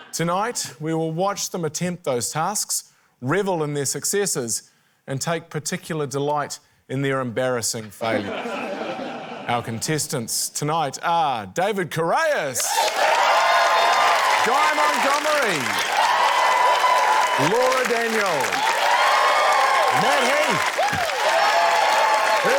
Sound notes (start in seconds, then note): 8.1 laughter; 13.0 cheering, applause; 16.0 cheering, applause; 18.7 cheering, applause; 21.2 cheering, applause